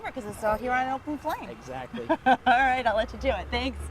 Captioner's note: laughs